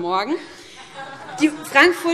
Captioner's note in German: Heiterkeit